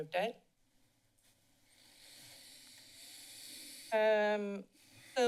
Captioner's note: silence